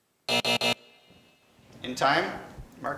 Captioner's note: alarm buzzes